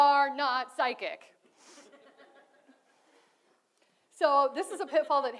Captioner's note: audience laughs